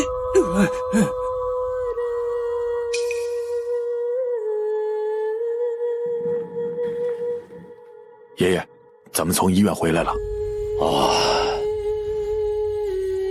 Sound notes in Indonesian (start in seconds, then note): 10.7 Menghela napas